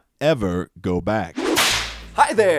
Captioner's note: whip cracking